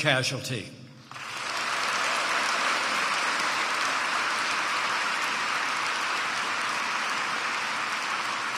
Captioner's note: applause